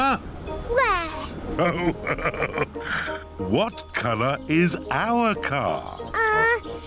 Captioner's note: laughs